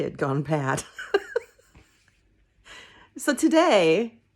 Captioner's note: laughing